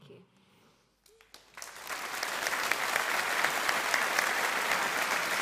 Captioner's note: audience applauding